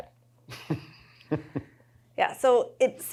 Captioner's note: chuckles